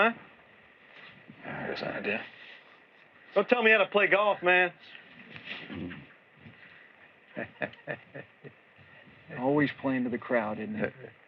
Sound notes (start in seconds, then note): 7.2 chuckles